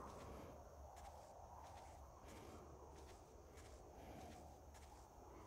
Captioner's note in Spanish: Sonido de pasos